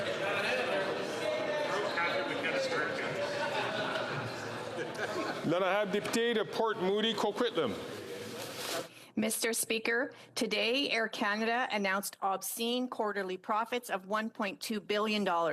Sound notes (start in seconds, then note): 4.9 chatter